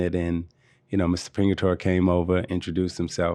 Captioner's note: none